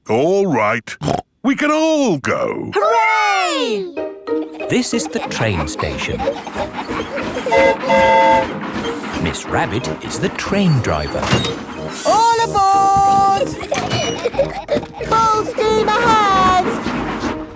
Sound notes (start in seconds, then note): 7.4 train whistle toots; 13.0 giggling